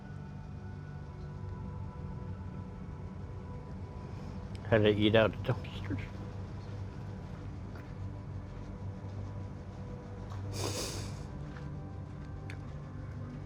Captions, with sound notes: Had to eat out of dumpsters. [SNIFFLING]